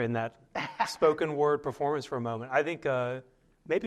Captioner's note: laughter